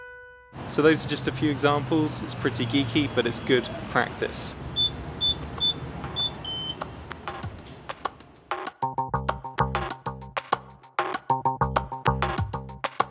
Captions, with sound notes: So those are just a few examples, it's pretty geeky, but it's good practice. (beeping keypad) (light electronic music)